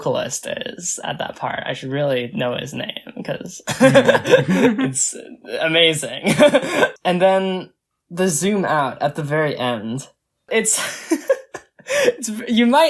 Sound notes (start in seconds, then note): 3.7 both laugh; 6.9 laughs